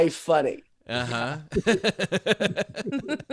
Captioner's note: laughing